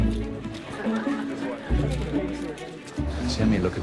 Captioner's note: energetic music; guests chattering